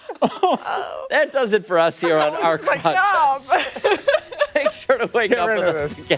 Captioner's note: laughter